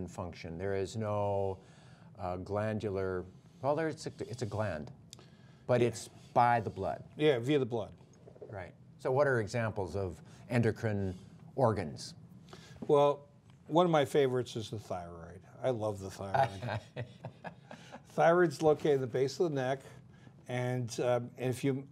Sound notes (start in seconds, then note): 16.3 laughter